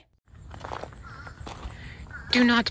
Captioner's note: gravel crunching